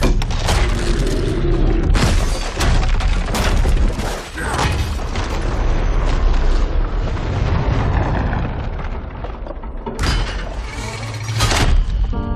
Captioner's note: rumbling and cracking